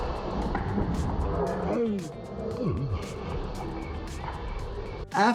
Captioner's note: athlete groans